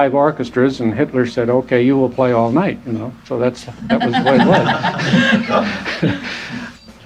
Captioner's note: laughter